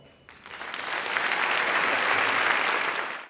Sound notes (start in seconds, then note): 0.2 applause